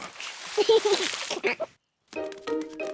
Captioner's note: giggles